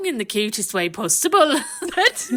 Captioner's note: laughing